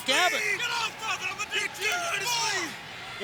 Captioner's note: crowd cheering